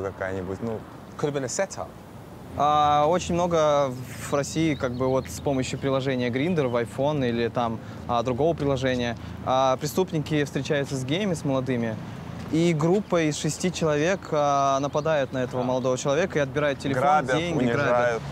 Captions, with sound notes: It could have been a setup? (speaking in foreign language)